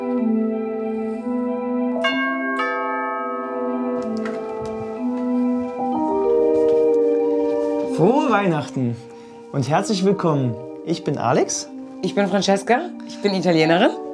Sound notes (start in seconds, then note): 0.2 christmas music; 2.0 bell